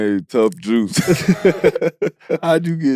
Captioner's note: laugh